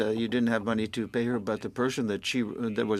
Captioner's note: speaking French